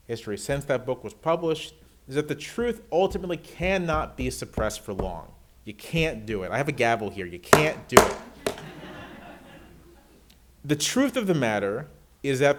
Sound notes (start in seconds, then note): 7.5 gavel bangs; 8.3 audience laughs